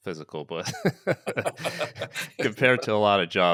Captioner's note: laughing